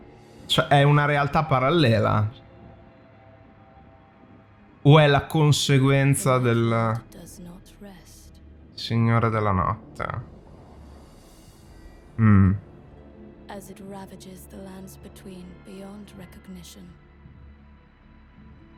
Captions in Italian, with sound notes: Cioè, è una realtà parallela? O è la conseguenza della... (deep thinking mumble mumble)